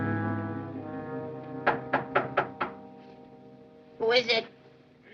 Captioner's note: knocking on door